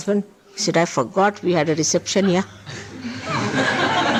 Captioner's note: laughter